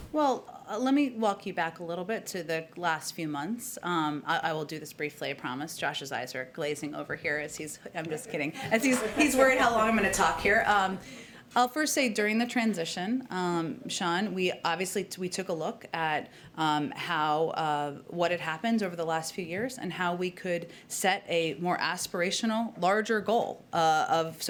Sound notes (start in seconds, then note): 8.2 laughter